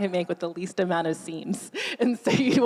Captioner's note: laughing